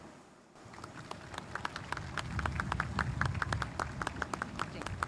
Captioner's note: spectators applauding